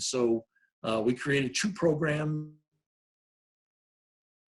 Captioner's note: audio cuts out